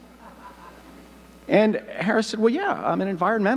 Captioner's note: audience laughing